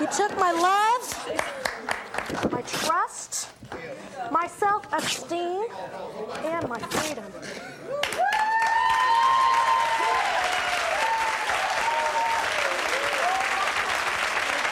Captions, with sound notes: You took my love. My trust. My self-esteem. And my freedom. (audience applauding)